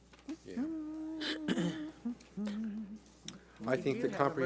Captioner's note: humming